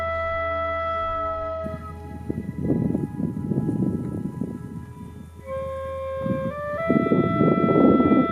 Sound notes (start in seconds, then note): 1.5 wind blowing